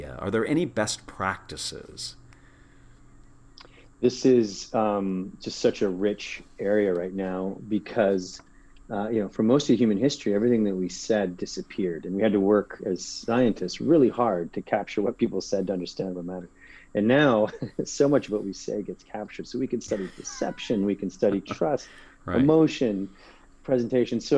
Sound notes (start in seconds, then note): 19.8 laugh